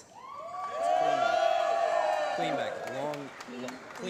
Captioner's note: applause